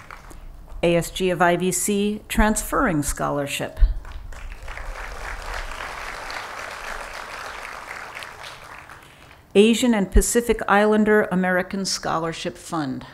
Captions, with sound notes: ASG of IVC Transferring Scholarship. [Applause] Asian and Pacific Islander American Scholarship Fund.